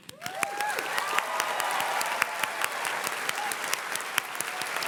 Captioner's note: audience cheers and claps